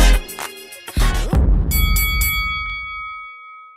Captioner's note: boxing ring bells